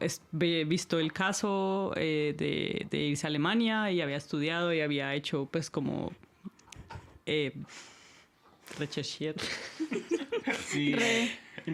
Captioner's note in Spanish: risas